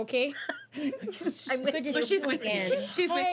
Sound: girls laughing

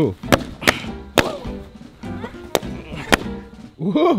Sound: popping Sound

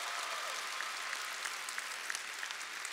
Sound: cheers and applause

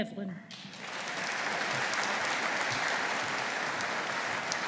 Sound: audience applauding

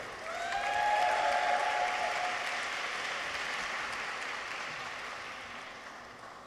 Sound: people cheer; audience applauds

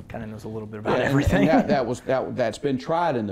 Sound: laughs

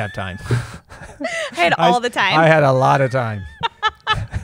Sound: laughter

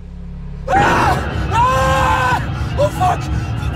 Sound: screams wildly; frightening music

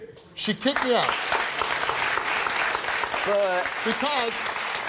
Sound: audience applause

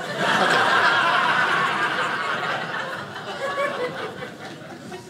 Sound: audience laughing

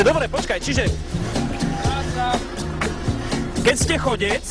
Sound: speaking polish

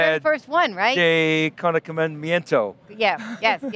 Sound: laughing

